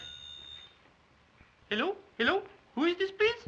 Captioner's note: in woman's voice